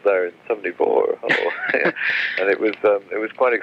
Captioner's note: laughs